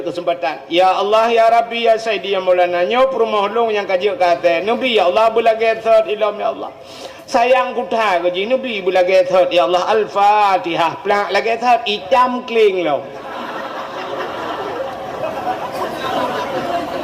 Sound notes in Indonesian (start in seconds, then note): 13.1 tertawa